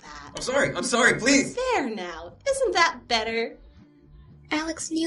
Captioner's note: begging